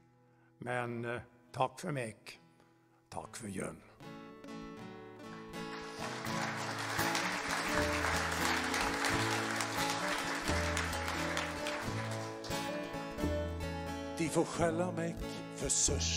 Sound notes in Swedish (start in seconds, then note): 5.2 applåder